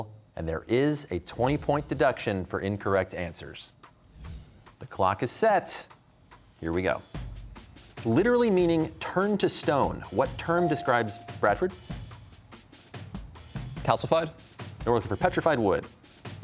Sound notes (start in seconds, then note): none